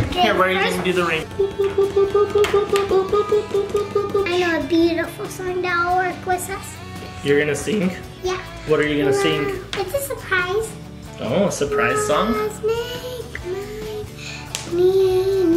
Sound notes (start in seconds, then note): 1.2 dad makes beeping sounds; 12.4 sings notes